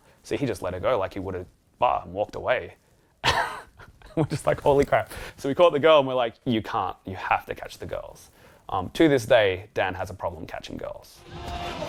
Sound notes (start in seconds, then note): 3.5 laughs